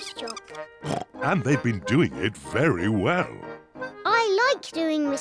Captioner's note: oinks